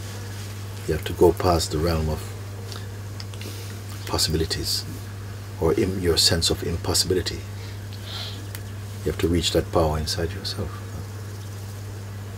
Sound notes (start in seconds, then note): none